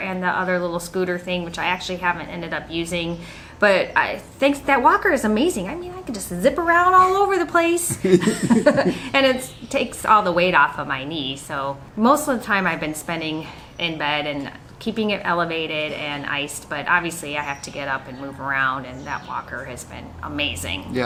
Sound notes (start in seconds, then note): 7.8 laughs